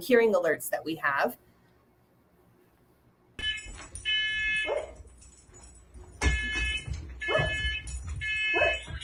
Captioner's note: alarm noise